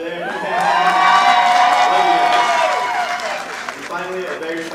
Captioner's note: audience applauding